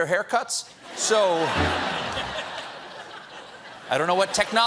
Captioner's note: laughter